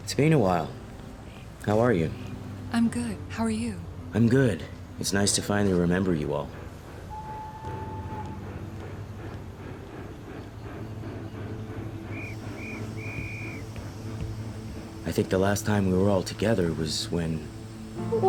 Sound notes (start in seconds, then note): 7.9 train chuffing and bellowing; 12.1 whistle trilling